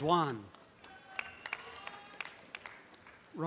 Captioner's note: audience applause